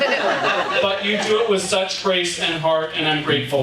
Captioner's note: audience laughing